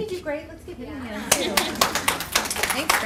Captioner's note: applause